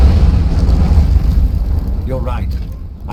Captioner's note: explosion